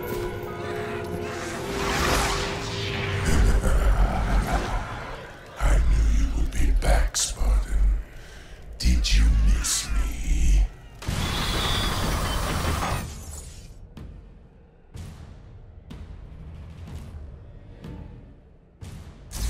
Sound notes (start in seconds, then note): 3.2 laughs